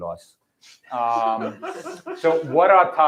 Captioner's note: laughter